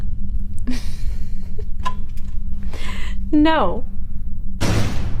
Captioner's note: laughs